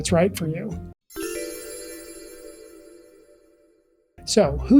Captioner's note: chimes